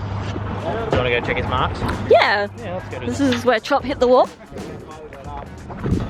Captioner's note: crash